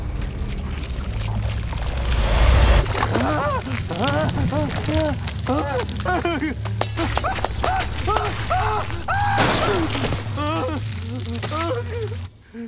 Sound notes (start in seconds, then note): 2.6 shrieking; 9.6 groaning